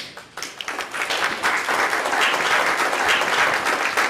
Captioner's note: audience applauding